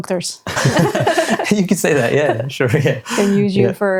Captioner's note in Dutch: beide lachend